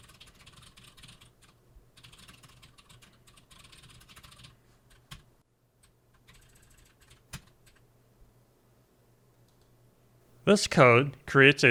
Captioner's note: typing sounds